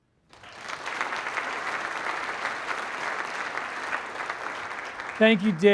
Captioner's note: applause